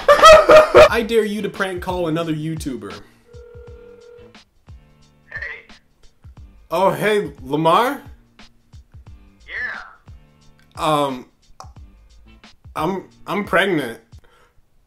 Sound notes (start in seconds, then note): 0.0 crying; 3.2 phone ringing